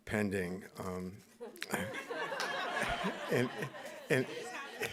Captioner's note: audience laughing